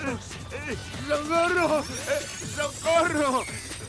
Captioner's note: grunting